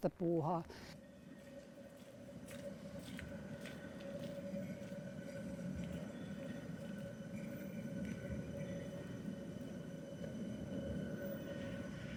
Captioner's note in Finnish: Kaupungin ääniä